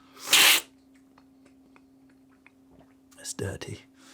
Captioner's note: slurping